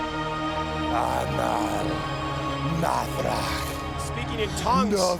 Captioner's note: Undertaker speaking in tongues